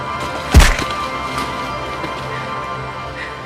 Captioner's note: ax thuds; Macy gasping